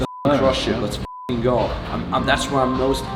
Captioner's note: beep